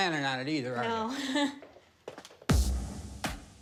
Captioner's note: chuckles